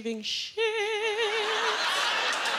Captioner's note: laughter